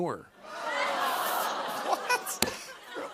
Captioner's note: ohhs and laughter